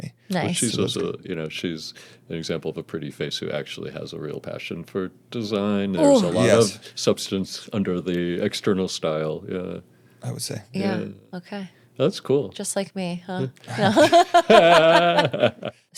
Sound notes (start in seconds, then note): 13.4 laughing